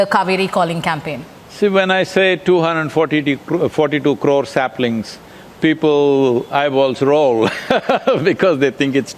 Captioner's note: laughs